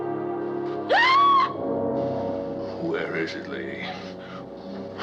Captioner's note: screams